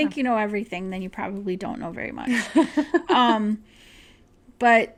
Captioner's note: laughter